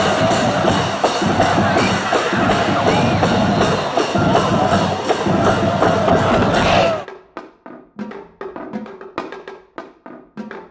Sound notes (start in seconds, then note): 0.0 cheering and drumming; 7.4 percussion music